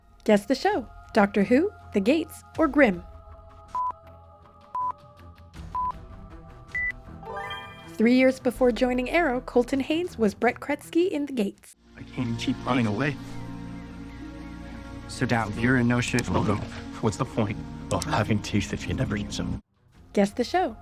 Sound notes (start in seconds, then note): 16.3 growls